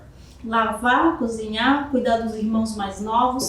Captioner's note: speaking portuguese